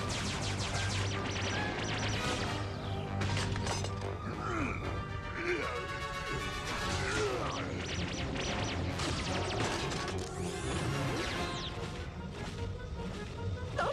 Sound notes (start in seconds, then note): 4.3 grunts